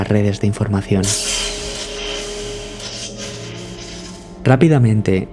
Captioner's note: electricity